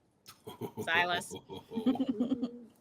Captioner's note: laughing